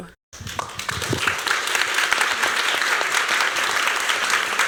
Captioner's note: applause